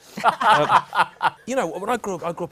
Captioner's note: laughter